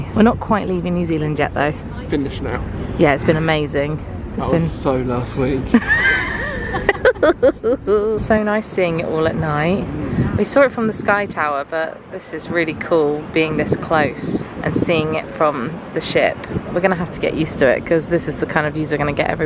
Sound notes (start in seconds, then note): 5.7 laughs